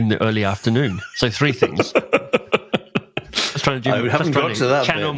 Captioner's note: laughs